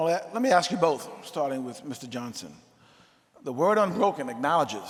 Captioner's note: none